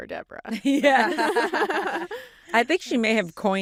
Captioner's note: laughter; laughs